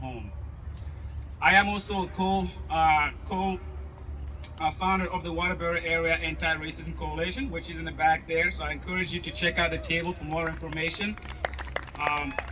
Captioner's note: applause